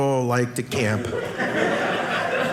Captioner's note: audience laughing